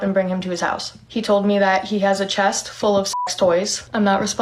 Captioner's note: beeps